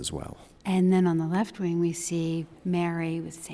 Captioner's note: voiceover